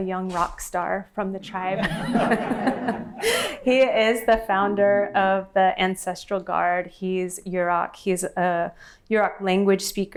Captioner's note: laughter